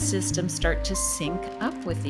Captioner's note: waves rolling